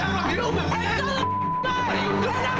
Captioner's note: beep